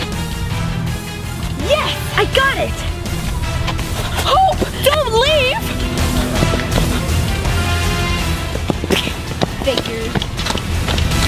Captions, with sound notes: - Yes, I got it. - Hope don't leave! (disgusted sigh) - Figures.